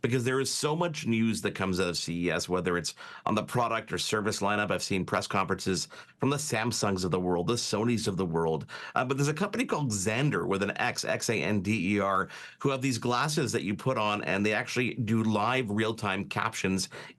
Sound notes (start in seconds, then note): none